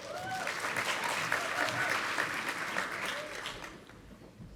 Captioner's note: audience applauding